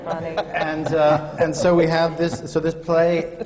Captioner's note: laughter